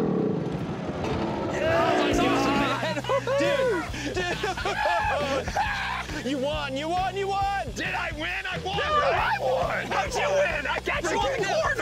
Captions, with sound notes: Yeah! [cheering] You won! You won! You won! - Did I win? I won. Right? No, I won! How'd you win? I got you cornered. - We said three laps.